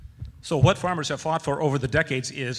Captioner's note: voiceover